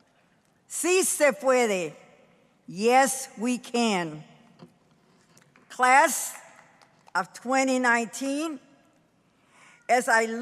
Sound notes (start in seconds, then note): 0.8 speaking in foreign language